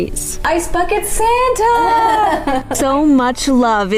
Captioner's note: laughter